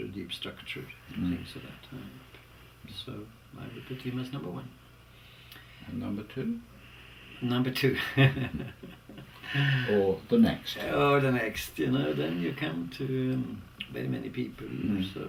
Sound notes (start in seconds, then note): 10.3 laugh